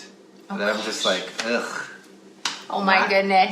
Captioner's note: scoffs